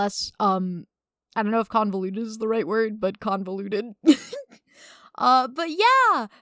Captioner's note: laughs